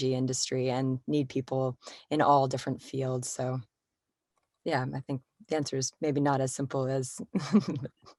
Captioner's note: laughter